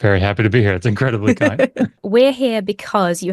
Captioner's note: laughs